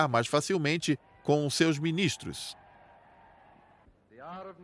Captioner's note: crowd cheering